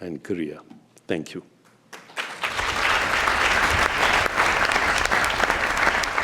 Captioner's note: applause